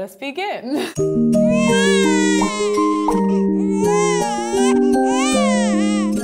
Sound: lullaby music; baby cries

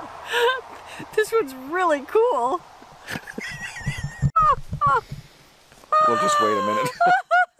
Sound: laughing

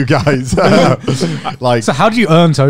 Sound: chuckling

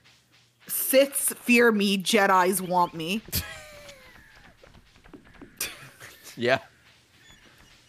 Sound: laughs

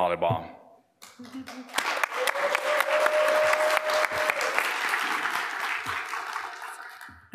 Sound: applause; cheering

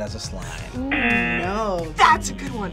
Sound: buzzer

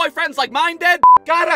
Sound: beep!

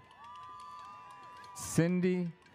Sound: audience cheers

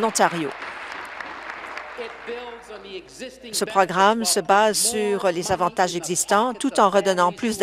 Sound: applause

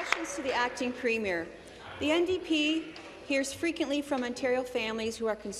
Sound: applause

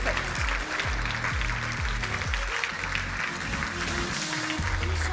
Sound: crowd applauding

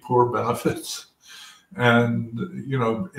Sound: laugh

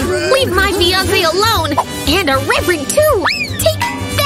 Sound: scared screams

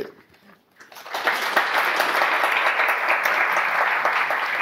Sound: audience applause

